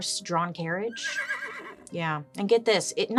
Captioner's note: horse whinnying